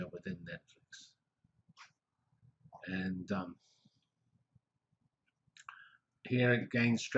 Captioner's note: pause